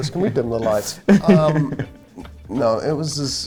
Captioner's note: Pope laughing